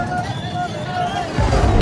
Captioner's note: travel sounds